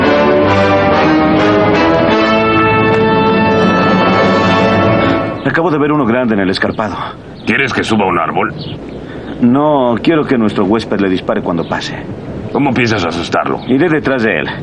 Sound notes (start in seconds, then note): none